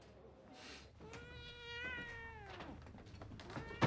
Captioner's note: cat meows